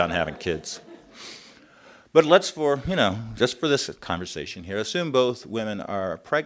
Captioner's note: laughter